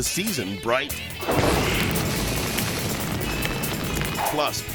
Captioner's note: upbeat music continues; fire roaring